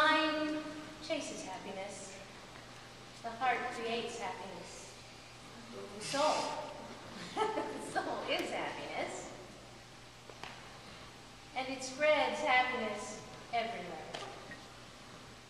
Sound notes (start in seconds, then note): 7.1 laughs